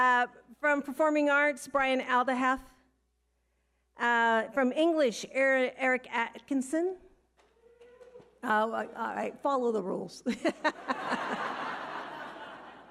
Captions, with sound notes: From performing arts, Brian Aldehalf. From English, Aaron Atkinson. (audience member cheering) All right, follow the rules. (all laughing)